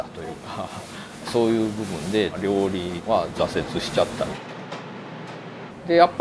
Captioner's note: Italian